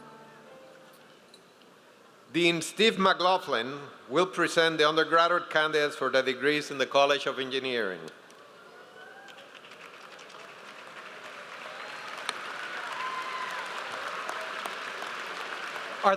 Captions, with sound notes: - Dean Steve McLaughlin will present the undergraduate candidates for the degrees in the College of Engineering. (audience applauds)